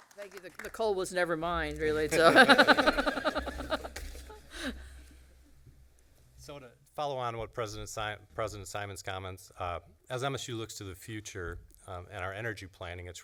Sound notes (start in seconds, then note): 2.1 laughter